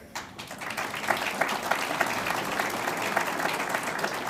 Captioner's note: audience applauds